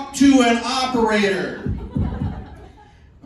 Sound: thump, thump, thump

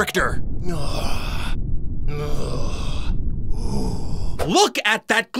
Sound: slow grunting

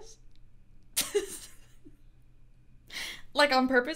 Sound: chuckling

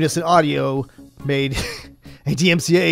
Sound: chuckles

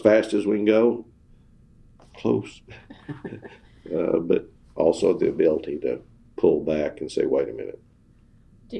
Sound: laughter

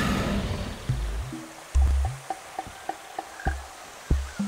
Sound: dinosaur roaring

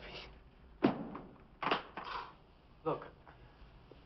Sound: sighs

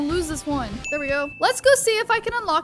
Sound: bell ringing

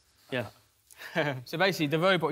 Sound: laughs

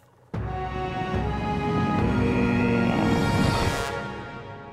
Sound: grunting

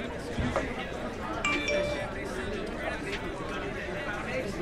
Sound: text alert

